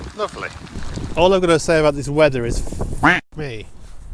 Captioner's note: quack